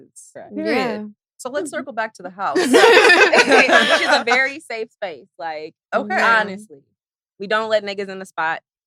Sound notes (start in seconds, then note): 2.5 all laughing